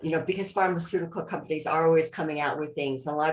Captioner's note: none